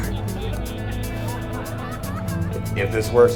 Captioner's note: audience laughing